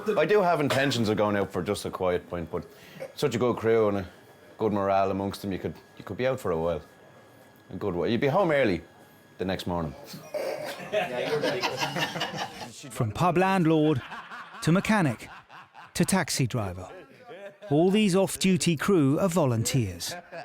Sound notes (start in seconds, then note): 10.4 crew laugh